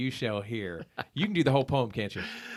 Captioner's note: laughing